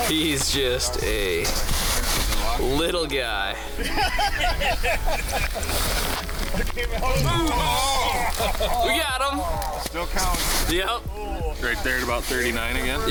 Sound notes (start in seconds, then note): 3.9 crew laughing; 7.0 crew moans